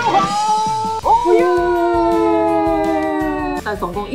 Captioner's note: sobbing